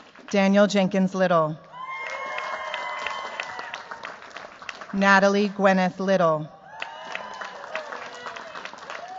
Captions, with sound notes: Daniel Jenkins Little. [CHEERS, APPLAUSE] Natalie Gwyneth Little. [CHEERS, APPLAUSE]